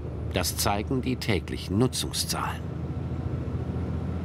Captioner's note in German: none